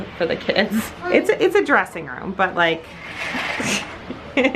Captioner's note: laughs